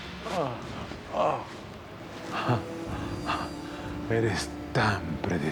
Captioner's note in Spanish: Quejidos